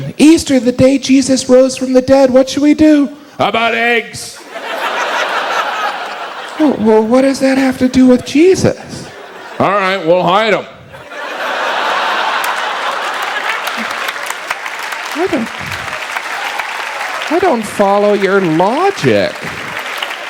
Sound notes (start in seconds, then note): 4.3 audience laughs; 15.9 audience applauds